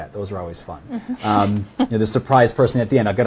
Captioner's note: laughs